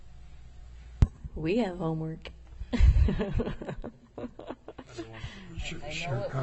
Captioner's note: laughter